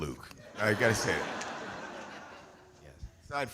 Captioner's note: audience laughing